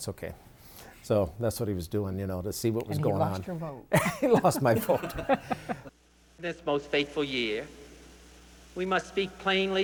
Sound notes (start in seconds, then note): 3.9 group chuckles